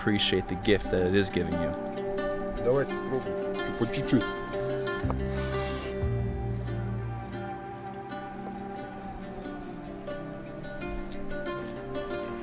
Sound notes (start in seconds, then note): 3.3 speaking in foreign language; 5.7 gentle music